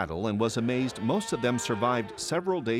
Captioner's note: cows moo